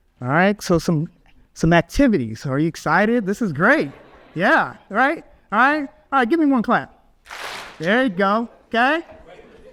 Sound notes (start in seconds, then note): 3.6 audience laughs; 7.2 audience claps